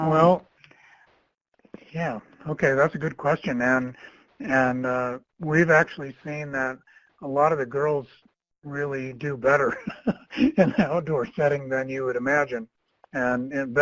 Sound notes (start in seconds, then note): 9.6 laughs